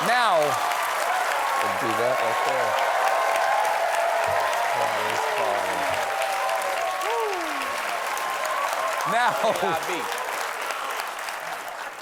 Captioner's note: cheers and applause